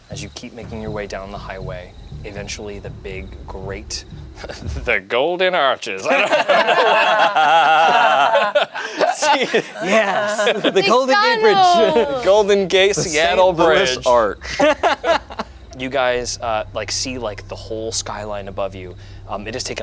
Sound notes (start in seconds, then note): 6.2 group laughs; 12.9 laughs